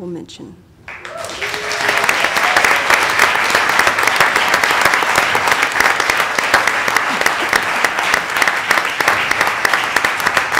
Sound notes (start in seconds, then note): 5.3 applause